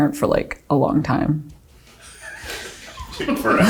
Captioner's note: laughing